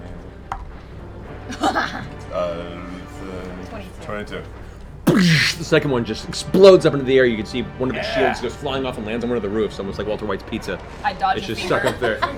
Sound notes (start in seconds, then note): 0.0 laughs; 4.6 explosion noise